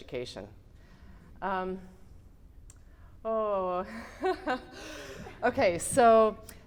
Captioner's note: giggles